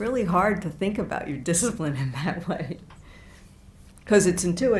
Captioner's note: laughs